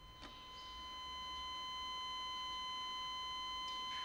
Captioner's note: flatlining